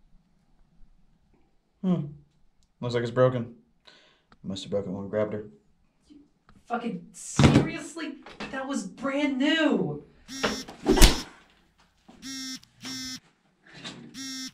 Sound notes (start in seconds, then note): 9.1 punch; 10.3 phone vibrates; 12.2 phone vibrates